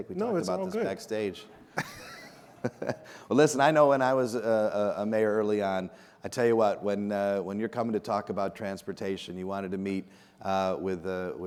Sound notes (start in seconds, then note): 1.5 laughs